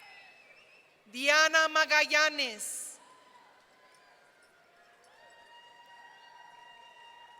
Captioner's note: audience cheering